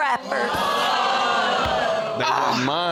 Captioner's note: audience exclaims